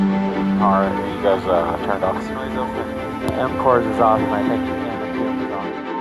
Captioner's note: muttering on radio